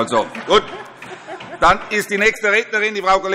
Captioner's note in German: Allgemeine Heiterkeit